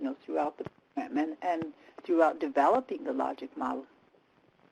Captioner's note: telephonic interference